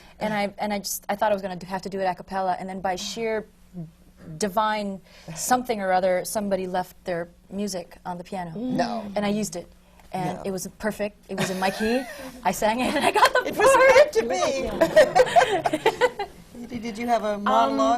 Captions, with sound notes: And I thought I was going to have to do it a cappella. And then by sheer divine something or other, somebody left their music on the piano. No! No! And I used it. And it was perfect. It was in my key, I sang it, (LAUGHS) and I got the part! It was meant to be! (LAUGHS) Edie, did you have a monologue?